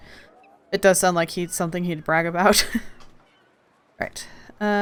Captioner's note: laughs